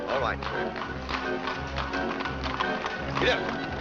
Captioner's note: hooves trotting